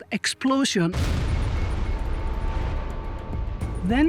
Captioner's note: sound of explosion